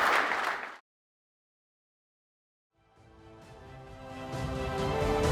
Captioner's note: applause